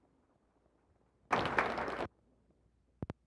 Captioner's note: silence; applause; silence